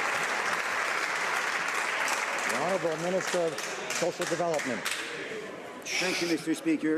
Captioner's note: some Applause